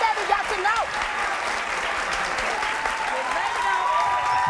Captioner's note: crowd cheering